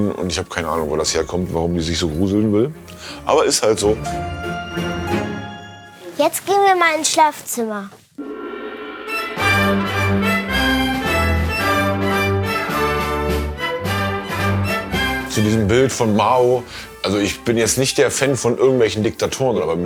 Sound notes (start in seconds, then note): 8.1 gong sound; 9.2 far Eastern music